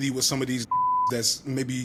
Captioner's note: beep